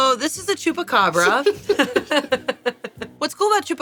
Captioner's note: everyone laughs